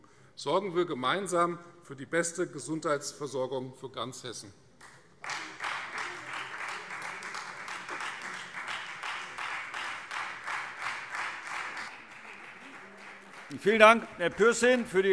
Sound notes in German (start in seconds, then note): 4.8 Beifall Freie Demokraten